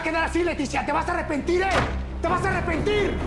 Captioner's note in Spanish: Puerta se cierra